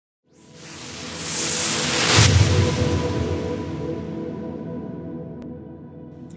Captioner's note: whooshing